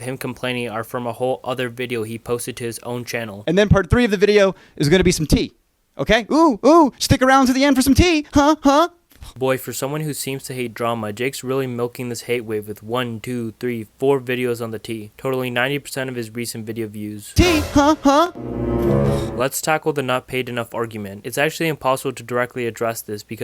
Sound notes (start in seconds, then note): 17.4 confused sound effect; 17.4 boom